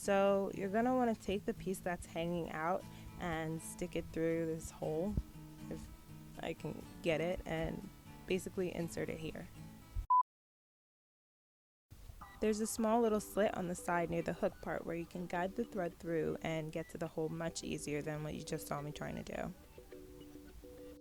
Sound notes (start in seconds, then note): 10.0 beep; 19.5 ambient music